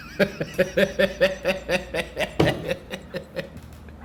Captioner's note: laughing